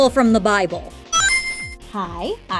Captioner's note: RING sound effect